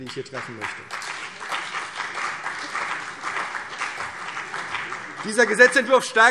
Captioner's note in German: Beifall CDU und BÜNDNIS 90/DIE GRÜNEN